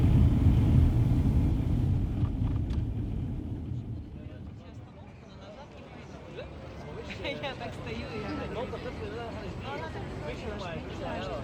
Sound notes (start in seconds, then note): 7.8 crowd chatters